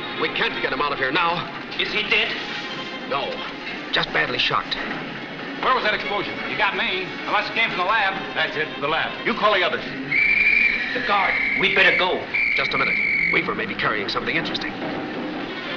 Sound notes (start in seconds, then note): 10.0 whistle blows